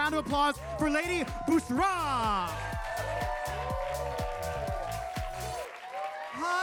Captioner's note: audience applauding